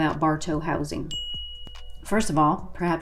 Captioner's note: dinging